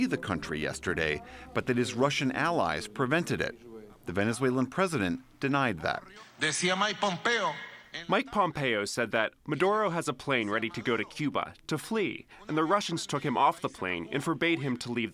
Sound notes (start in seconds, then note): 7.1 through translator